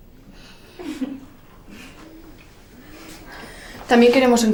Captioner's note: laughter